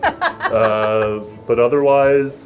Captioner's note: laughs